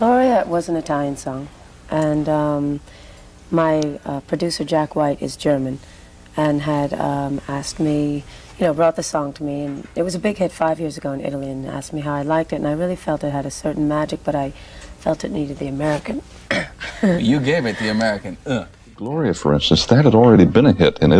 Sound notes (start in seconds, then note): 16.6 grunting; 18.4 grunting